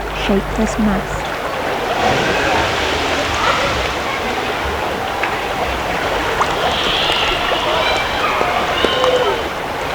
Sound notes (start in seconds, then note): 1.2 running water, children yelling